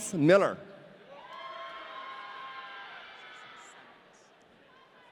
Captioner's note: audience cheering